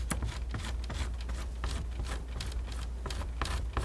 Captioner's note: scratching